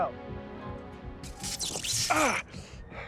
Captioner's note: electric zapping